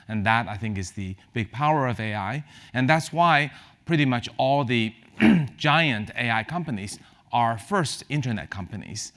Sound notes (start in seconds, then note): 5.1 cough